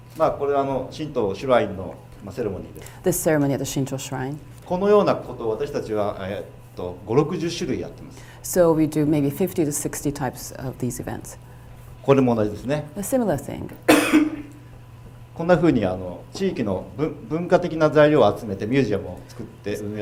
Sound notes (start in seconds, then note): 0.3 speaking foreign language; 4.8 speaking foreign language; 15.0 speaking foreign language